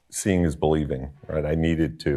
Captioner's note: none